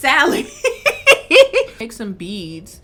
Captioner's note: laughing